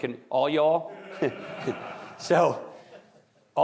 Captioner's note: audience laughing